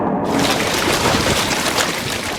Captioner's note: water sloshing